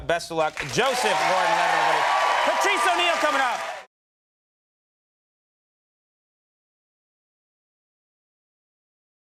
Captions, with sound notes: Best of luck. Joseph Gordon-Levitt, everybody. (audience cheering) Patrice O'Neal coming up.